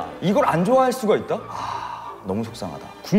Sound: A deep sigh

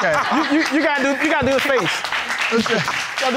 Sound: laughing; stammers

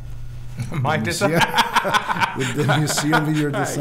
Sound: laughing

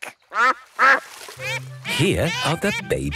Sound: quacks

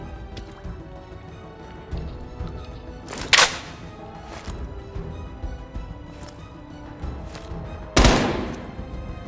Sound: gunshots

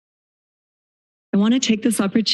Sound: silence

